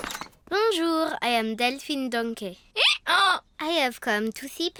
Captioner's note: brays